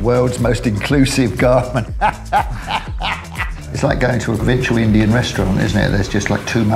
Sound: laughs

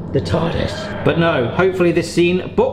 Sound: TARIS sound effects

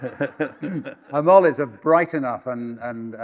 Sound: audience laughing

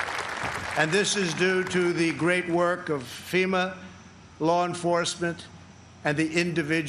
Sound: applause

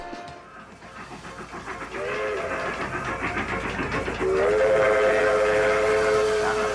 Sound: train whistles and steam sound effects

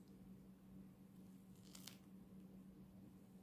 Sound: crunch

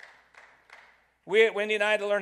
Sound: audience clapping

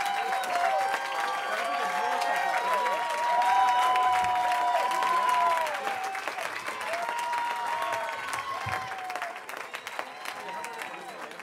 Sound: cheering

